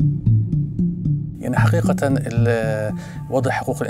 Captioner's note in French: parle en arabe